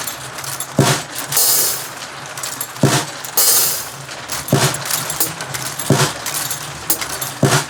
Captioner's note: marble drops on the drums